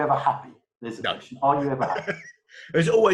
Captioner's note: murmurs; laughs